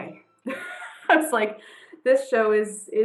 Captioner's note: laughs